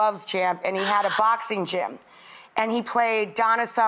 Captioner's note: lady gasping